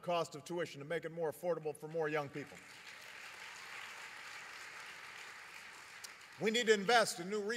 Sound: applause

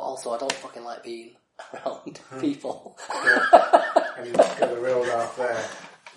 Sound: laughs

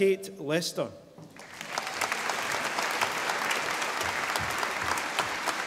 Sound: audience applauding

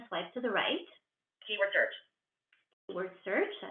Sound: VoiceOver voice

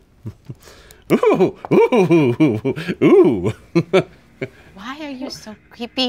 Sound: laughs

